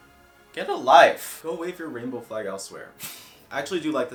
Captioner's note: scoffs through nose